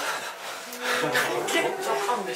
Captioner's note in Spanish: Tomando una respiración profunda